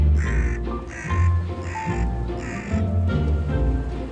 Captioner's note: bird cawing